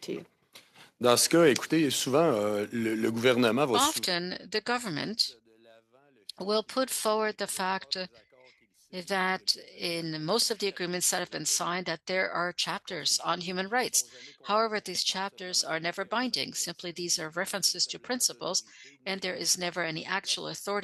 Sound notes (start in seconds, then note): 7.9 speaking French